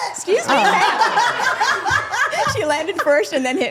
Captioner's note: group laughing